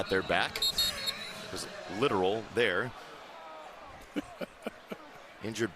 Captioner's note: whistle